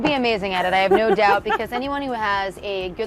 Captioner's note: laughs